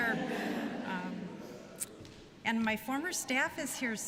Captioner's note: laughter